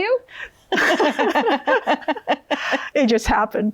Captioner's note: both laughing